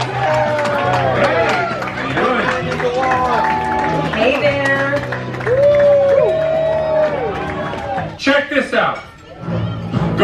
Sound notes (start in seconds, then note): 0.0 all applauding; 5.2 all cheering